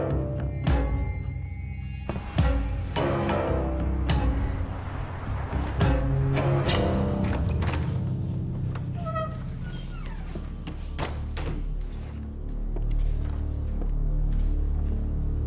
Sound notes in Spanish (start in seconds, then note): 8.8 ruido al entrar